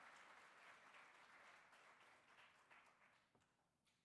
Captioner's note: applause